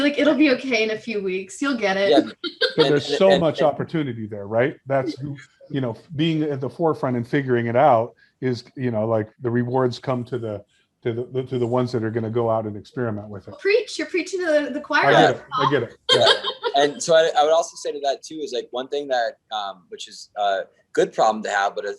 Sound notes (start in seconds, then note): 2.0 laughs; 15.1 laughs